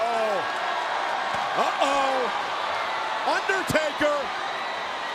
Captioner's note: crowd cheering